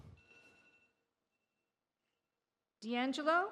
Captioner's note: alarm beeps